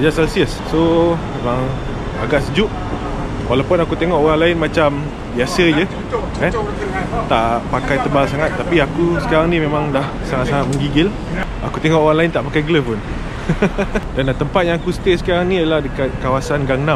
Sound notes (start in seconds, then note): 13.4 laughs